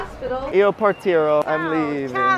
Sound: speaking Italian

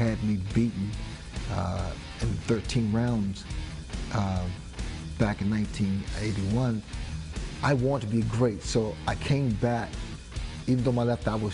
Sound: hablan en ingles

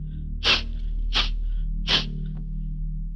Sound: sniffles

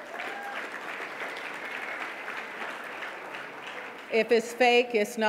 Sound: audience clapping

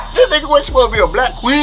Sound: laughing

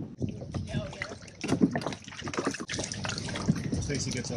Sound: wind blowing; splashing sounds

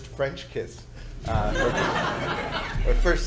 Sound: audience Laughing

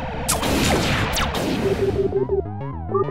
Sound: electronic blasting; beeping

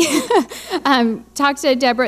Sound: laughing

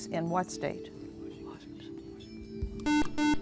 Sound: whispering; buzzer

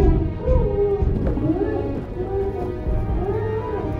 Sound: muffled grunting

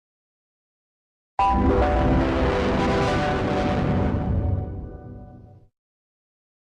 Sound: Devil Windows Server 2003 Startup Sound

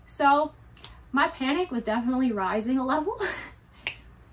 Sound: laughs

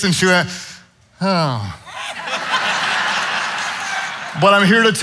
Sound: audience laughing

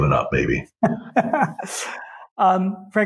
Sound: laughs

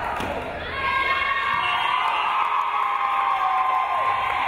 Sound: crowd cheering

